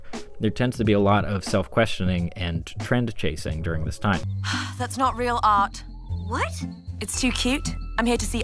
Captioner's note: sigh